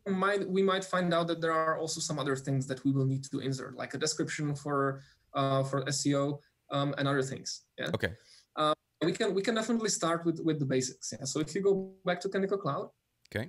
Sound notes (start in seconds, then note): none